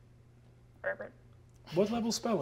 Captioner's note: imitates frog croaking